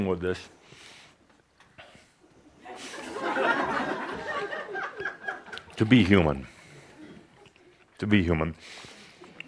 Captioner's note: more laughter as Adamus continues eating